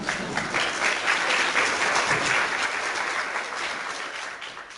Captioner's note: clapping